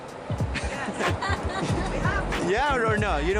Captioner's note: laughing